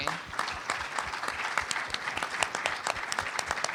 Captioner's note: applause